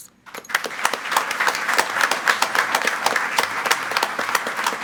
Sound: group applauding

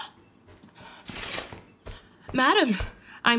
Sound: curtains drawing

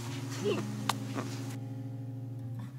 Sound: gentle guitar music; laughs; gentle guitar music

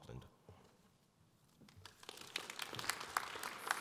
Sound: audience applause

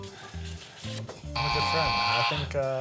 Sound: buzzer noise

